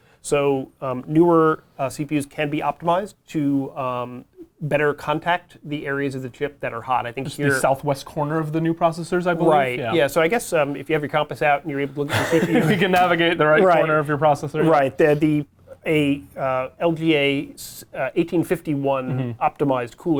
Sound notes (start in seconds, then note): 12.0 laughs